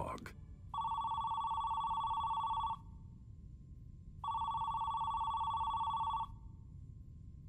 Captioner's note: phone ringing